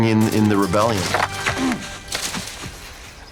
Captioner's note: grunts